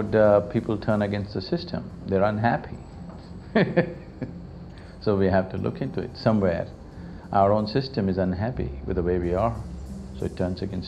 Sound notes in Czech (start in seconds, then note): 3.5 směje se